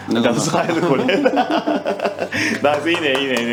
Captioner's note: speaking foreign language; laughs; speaking foreign language